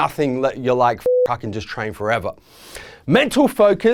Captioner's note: beeping